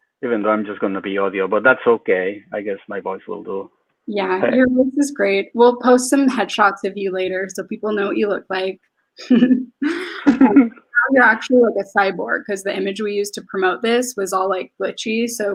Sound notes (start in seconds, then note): 9.2 laughs; 10.6 speaks faintly